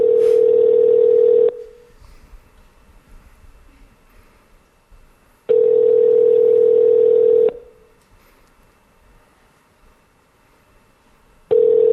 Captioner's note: phone ringing